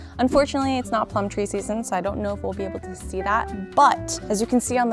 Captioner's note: none